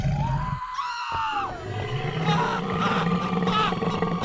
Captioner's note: growling; screaming; growling